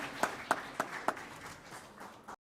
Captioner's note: clapping